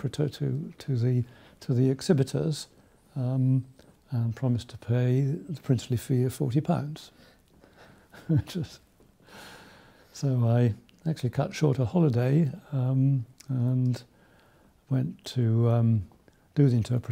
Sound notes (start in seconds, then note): 8.1 laughs